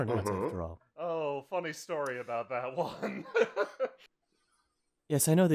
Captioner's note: laughter